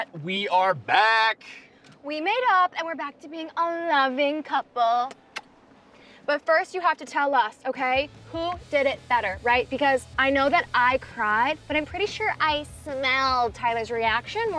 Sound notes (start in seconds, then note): 5.1 kisses smacking